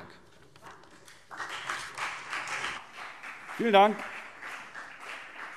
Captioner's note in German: Beifall : Wann?